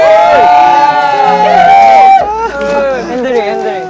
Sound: happy winner's roar

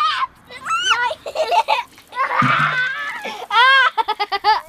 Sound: giggles; laughs

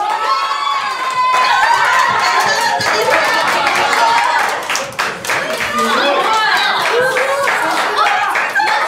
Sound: cheers

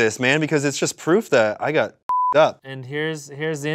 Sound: beep

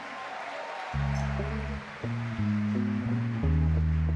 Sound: audience cheer and clap; mid tempo music

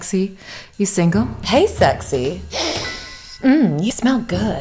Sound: sniffs

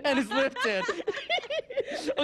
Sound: laughter

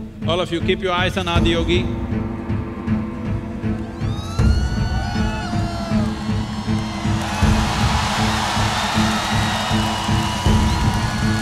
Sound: crowd Cheers

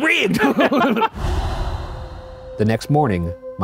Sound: both laughing

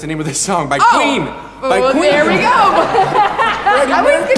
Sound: audience laughs

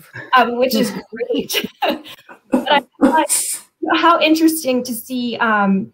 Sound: laughter

